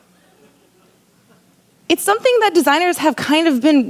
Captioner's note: laughter